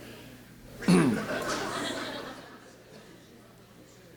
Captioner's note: laughing